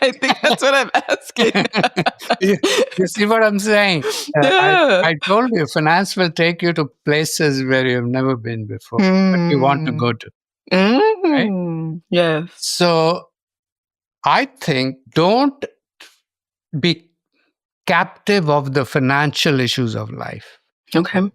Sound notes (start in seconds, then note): 1.8 both laughing